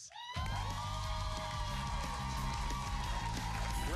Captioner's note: cheers and applause